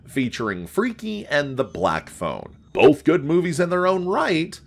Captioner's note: none